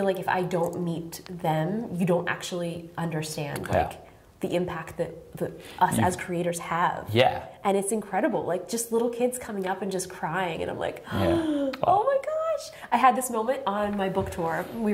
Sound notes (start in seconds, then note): 11.3 shocked inhale